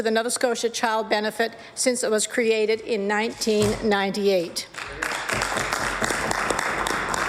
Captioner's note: applause